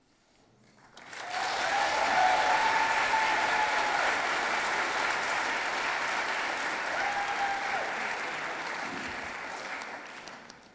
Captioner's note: audience applauding